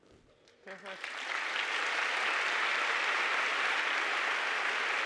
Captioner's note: audience applauding